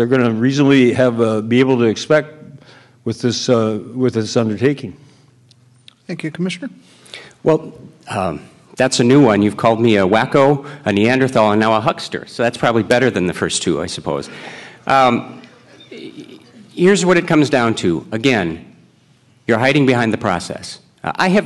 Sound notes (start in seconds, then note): 15.2 audience murmurs